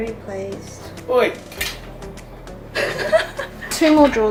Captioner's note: laughter